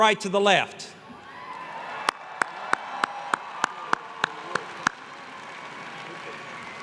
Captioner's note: applause